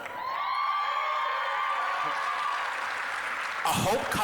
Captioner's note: applause, cheering